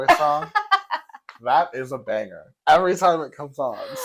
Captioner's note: laugh